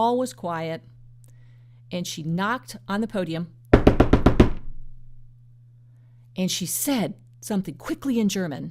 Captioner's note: knocking